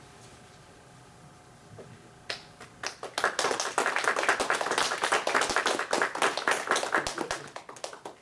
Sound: clapping

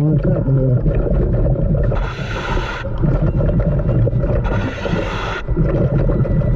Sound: mouthpiece hissing; ominous music continues

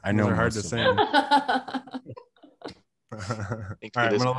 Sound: laughing

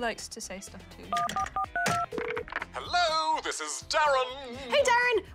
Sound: buttons beep, line rings

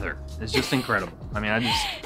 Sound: laughs

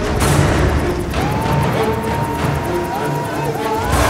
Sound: cheering

